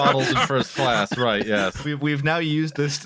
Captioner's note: laughter